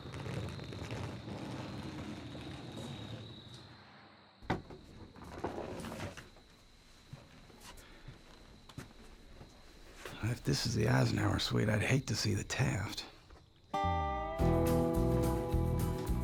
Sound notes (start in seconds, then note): 0.0 luggage rolling; 4.9 crickets chirping